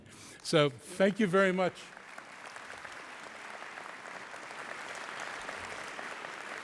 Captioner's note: applause